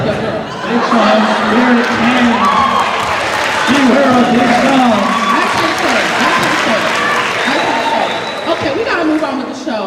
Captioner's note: cheering